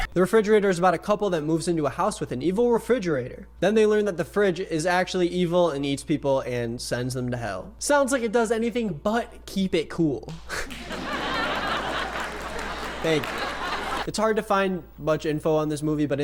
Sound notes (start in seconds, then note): 10.6 audience cheers